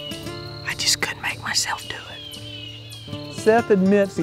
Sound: whispering

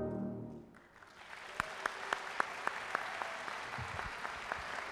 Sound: audience applauding

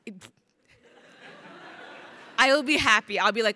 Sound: crowd laughing

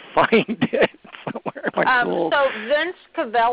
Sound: laughs

